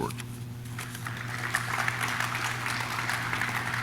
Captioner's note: audience claps